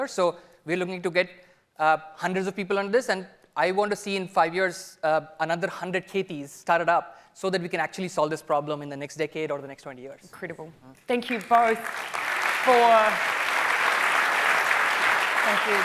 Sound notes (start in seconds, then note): 11.2 audience applauding; 11.3 applause continuing